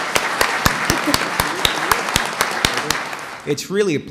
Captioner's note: applause